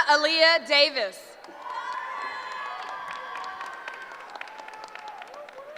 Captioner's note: cheering